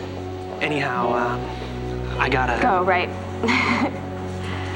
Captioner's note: chuckles